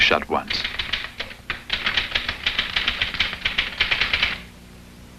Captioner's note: typing